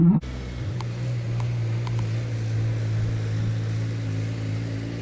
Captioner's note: boat engine roaring